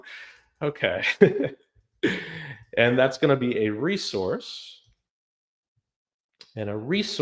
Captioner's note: laughs